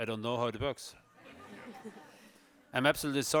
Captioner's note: audience laughs